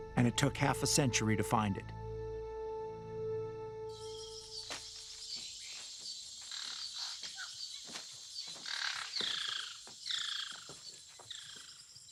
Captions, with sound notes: And it took half a century to find it. [birds chirping]